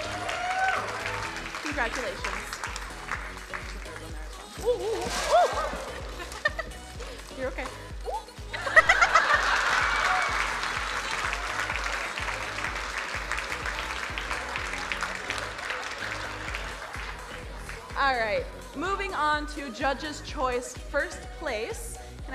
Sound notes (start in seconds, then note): 0.0 crowd cheering; 4.6 crowd gasping; 6.4 chuckles; 8.5 crowd laughing; 10.4 crowd applauding